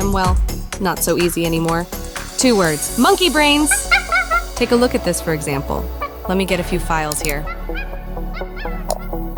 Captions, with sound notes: well, not so easy anymore. Two words, monkey brains! [chimp sounds] Take a look at this, for example. Let me get a few files here. [more chimp sounds]